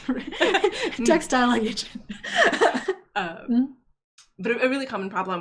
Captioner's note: speakers laughing drowns out audio